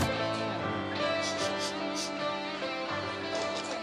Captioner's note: sniffing